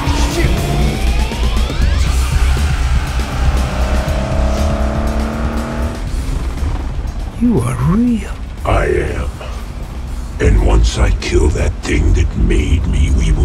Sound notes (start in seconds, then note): 6.3 symbiote growls softly